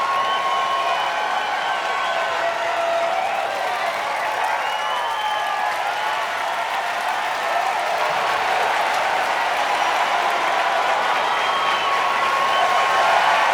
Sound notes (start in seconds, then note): 0.7 crowd cheering and clapping